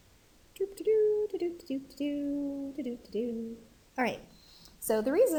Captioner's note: instructor humming